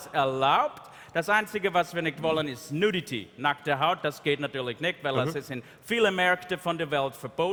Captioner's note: speaking in German -- no translation available